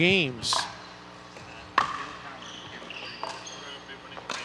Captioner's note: ball bouncing